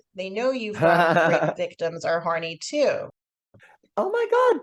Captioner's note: laughs